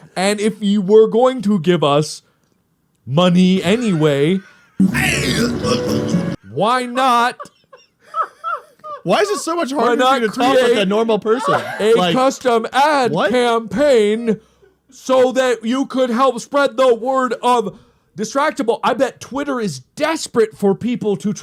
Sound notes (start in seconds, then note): 3.6 laughs yet again